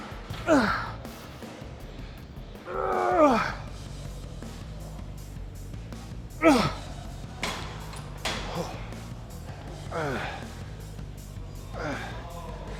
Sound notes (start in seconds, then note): 0.7 Ethan grunting; 7.3 metal clunking